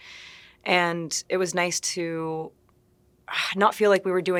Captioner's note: sighing